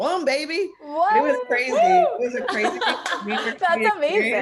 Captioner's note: cheers, cross talk